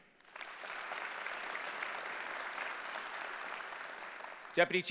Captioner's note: applause